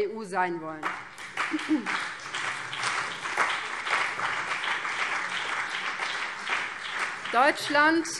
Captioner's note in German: Beifall BÜNDNIS 90/DIE GRÜNEN und vereinzelt CDU